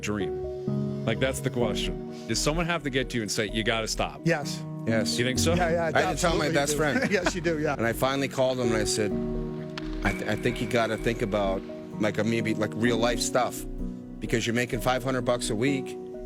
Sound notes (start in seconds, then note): 8.7 laughs